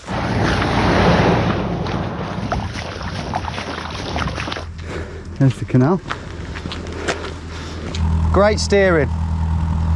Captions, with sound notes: (vehicle engine whirring) (water sloshing) There's the canal. Great steering.